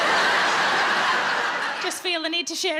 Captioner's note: audience laughs